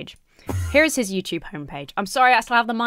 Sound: Enderman whooshes

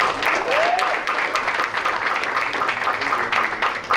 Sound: applause

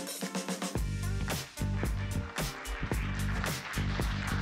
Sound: applause

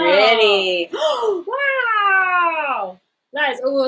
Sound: gasps

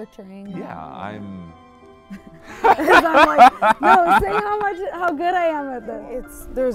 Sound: both laugh

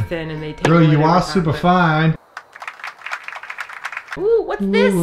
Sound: clapping sound

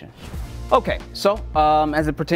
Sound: air whooshing

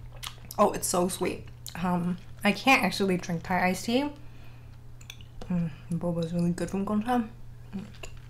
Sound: swallow

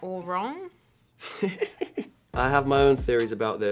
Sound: laughs

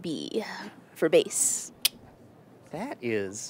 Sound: clicks tongue

